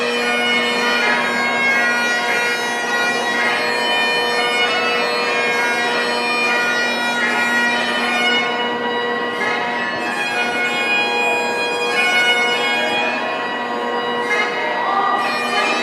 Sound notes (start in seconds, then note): 0.0 bell; 6.8 bell; 13.4 bell